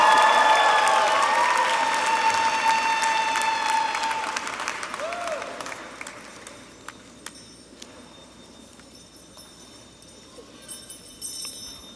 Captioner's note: applause